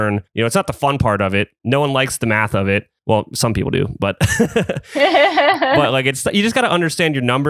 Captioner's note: laughs